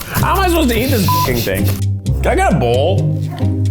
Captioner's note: beep; suspenseful music